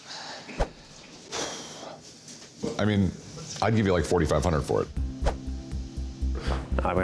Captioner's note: sighs